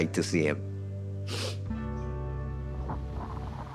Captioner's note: sniffles; peaceful music